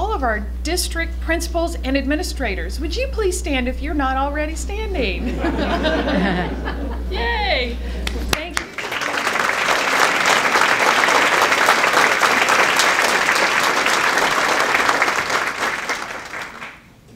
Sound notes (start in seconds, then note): 8.1 laughter; 12.2 applause